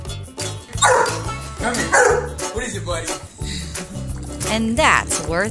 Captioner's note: barks